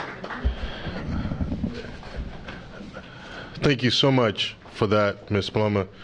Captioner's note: applause